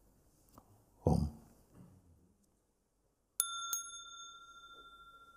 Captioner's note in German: Mooji läutet das Glöckchen; lange Stille